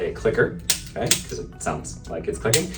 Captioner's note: activator clicking